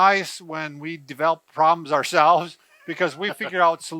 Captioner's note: laughs